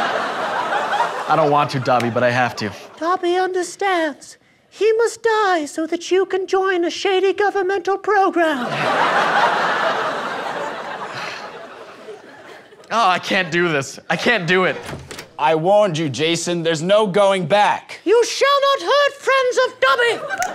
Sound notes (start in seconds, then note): 14.7 door opens